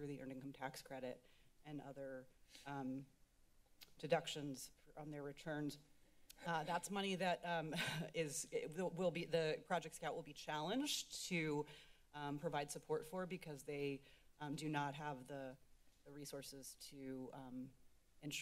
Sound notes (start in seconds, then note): 6.2 clicks Tongue; 7.8 laughs